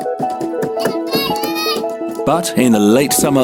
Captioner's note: children laughing